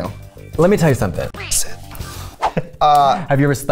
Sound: whispers

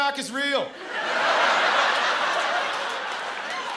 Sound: laughter

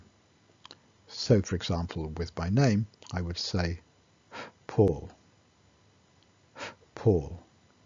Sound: inbreath

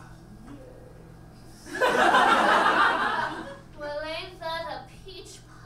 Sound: audience laughs

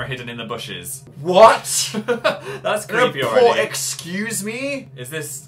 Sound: laughs

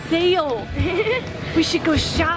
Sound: laughs

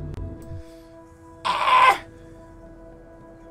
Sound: screech

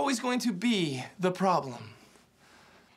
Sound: exhales

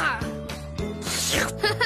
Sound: slurp; Ryder Laughs

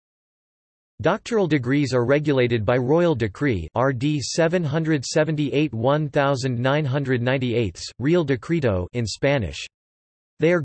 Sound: in Spanish

